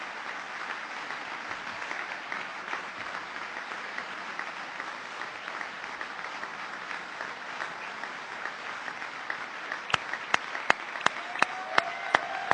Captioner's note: applause